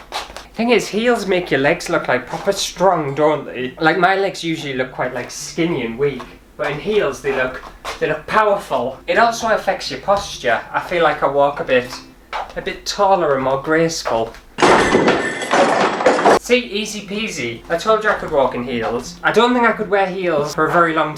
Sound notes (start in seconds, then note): 13.6 bins/Rubbish Rattling